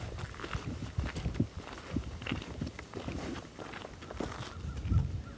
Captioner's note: soil crunching underfoot